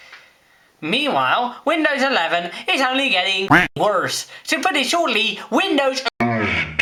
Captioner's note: quack